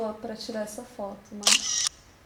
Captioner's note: photographic click sound